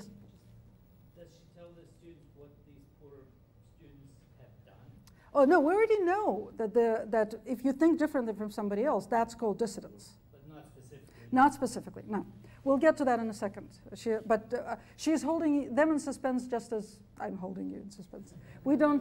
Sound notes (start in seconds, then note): 1.3 voiceover; 10.5 voiceover